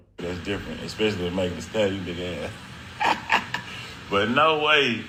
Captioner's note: laughs